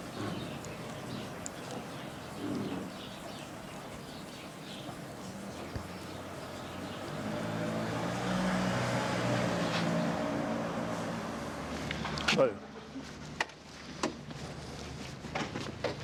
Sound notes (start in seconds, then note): none